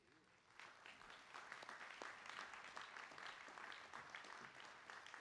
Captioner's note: applause